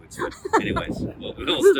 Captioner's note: laugh